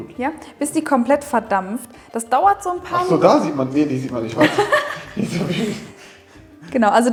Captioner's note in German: lacht